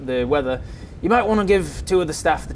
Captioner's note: thunders